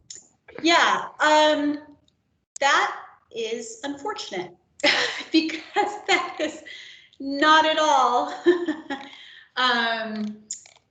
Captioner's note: laughs